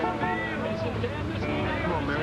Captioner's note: horn honks